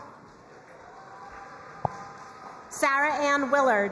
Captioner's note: crowd cheering and applauding